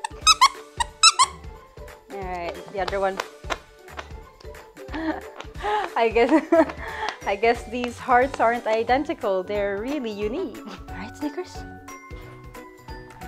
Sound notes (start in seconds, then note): 0.7 squeak; 4.9 laughing